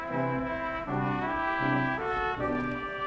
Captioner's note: none